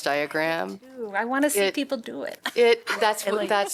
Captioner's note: laughter